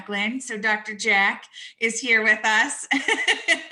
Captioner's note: laughs